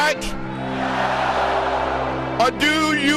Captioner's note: crowd